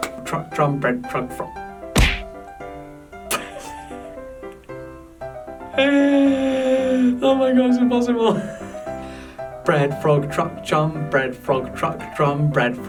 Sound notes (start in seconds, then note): 3.3 laughs; 5.7 groans